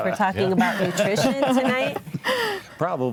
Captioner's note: group laughs